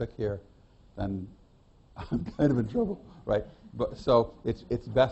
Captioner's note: laughs